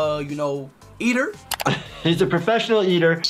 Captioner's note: laughing